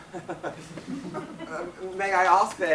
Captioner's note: audience laughs